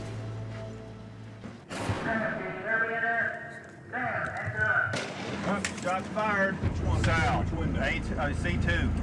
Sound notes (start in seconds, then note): 4.9 gunshot